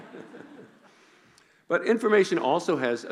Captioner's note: laughing